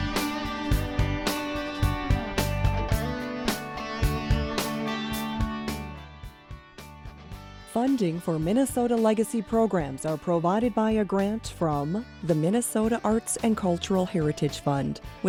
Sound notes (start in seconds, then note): 7.7 voiceover